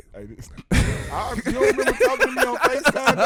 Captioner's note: laughing